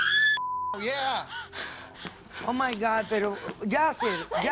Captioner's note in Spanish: Bip